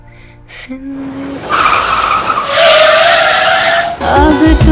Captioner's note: Tyres screeching